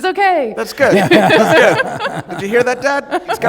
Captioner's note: laughter